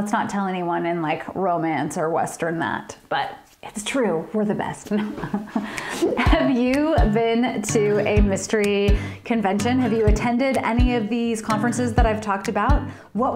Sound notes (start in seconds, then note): 4.9 laughter